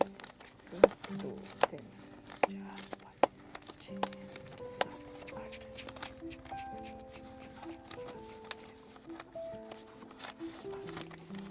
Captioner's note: counting bills